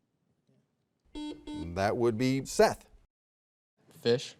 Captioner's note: soft beeping